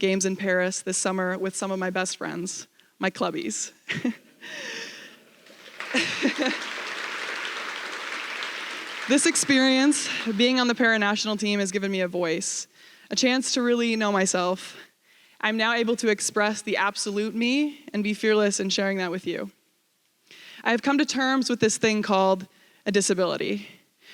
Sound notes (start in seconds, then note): 3.9 laughs; 6.3 applause